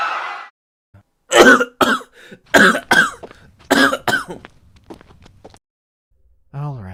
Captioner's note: Zayden violently coughs as footsteps briefly sound off